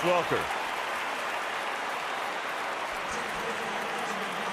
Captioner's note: cheering